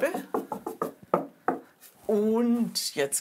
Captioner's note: hollow knocking